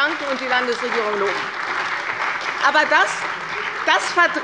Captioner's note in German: Beifall bei der CDU und dem BÜNDNIS 90/DIE GRÜNEN